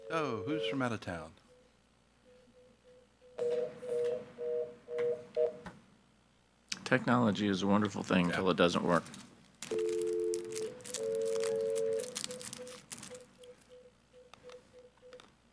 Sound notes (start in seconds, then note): 11.4 phone beeps